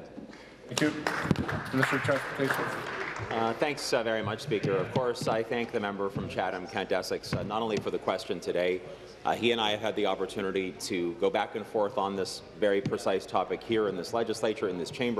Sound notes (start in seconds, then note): 3.8 applause